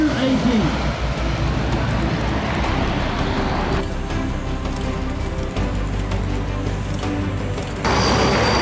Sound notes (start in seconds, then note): 0.0 epic music; 4.2 plane engine roaring